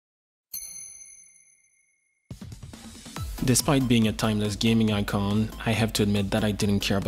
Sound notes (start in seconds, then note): 0.5 'ting' sound, like tapping crystal